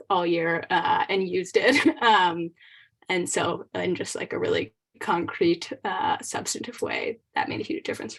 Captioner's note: laughter